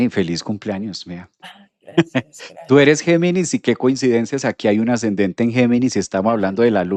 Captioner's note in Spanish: risas